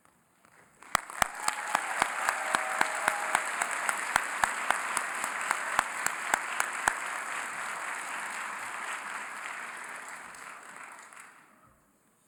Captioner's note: applause